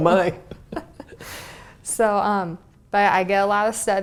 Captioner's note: laugh